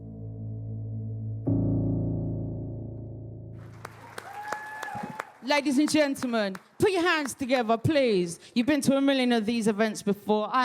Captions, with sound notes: (audience cheers) - Ladies and gentlemen, put your hands together please. You've been to a million of these events before,